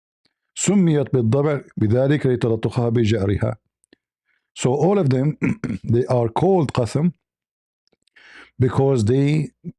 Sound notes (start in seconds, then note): 5.3 clears throat